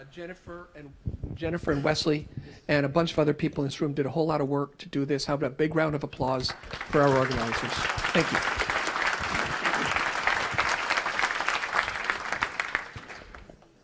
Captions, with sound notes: Jennifer Wesley and a bunch of other people in this room did a whole lot of work to do this. Have a big round of applause for our organizers. Thank you. (applauding)